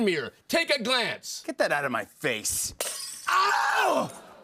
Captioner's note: mirror shatters